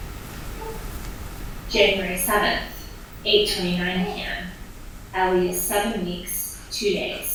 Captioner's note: baby softly coos